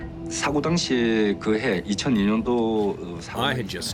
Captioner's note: speaking foreign language